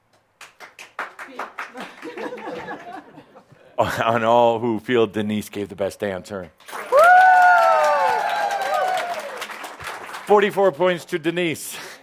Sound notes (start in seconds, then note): 0.4 one person clapping; 6.7 much cheering and applause